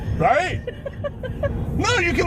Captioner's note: camerawoman laughing